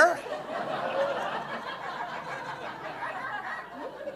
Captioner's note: audience laughing